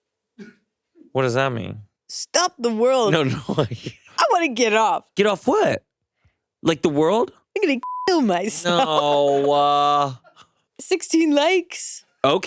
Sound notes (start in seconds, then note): 3.3 chuckles; 7.8 beeps; 8.6 chuckles